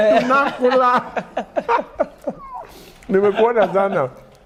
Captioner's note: laughter